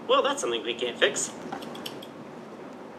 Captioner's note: snip, Snip